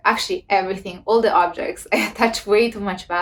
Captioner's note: laughs